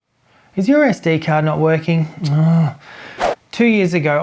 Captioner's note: sighs